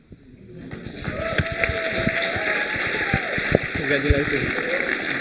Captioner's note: applause